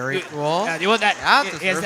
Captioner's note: audience applauding